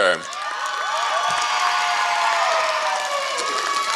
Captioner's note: applause